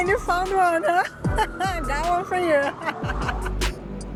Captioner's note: laughs